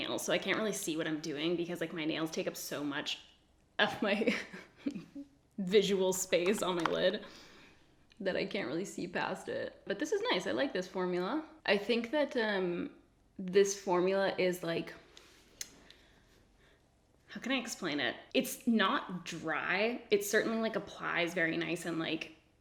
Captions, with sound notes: so I can't really see what I'm doing because like my nails take up so much of my (giggles) visual space on my lid that I can't really see past it, but this is nice. I like this formula. I think that this formula is like, how can I explain it? It's not dry, it certainly applies very nice and like